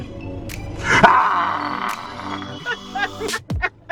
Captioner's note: growls